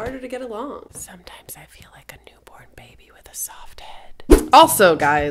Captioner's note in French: chuchote